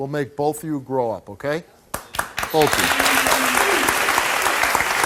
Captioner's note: audience applauds